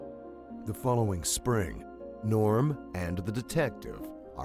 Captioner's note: voiceover